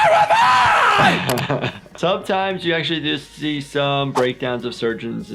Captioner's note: laughs